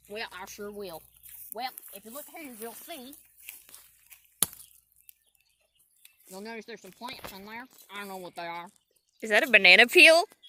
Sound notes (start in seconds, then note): 4.4 sound of shovel slapping mud